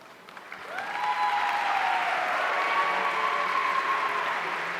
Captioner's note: audience cheering